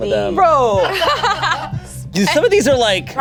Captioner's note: group laughs